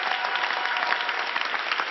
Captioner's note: applause